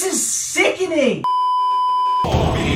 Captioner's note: beeeeeeeeeeeep